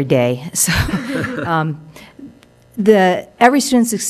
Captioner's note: chuckling